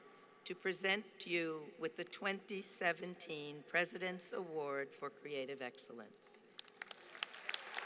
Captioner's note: applause